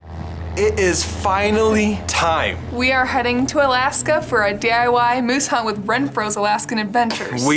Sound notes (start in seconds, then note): 0.1 engine rumbling